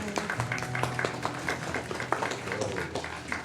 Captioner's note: applause